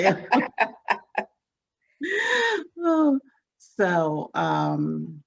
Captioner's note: both laughing